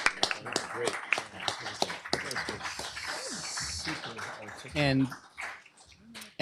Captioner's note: applause